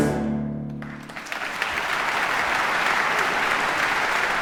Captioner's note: audience clapping